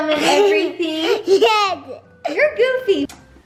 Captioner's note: giggles